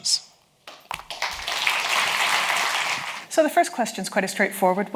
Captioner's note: audience applauds